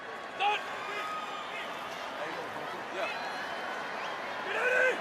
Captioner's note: football players talking